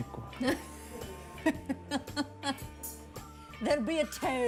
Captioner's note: Kate laughs